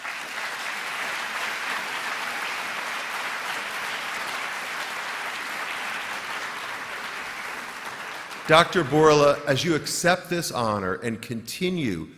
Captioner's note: applause